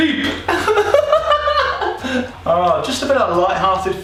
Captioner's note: laughing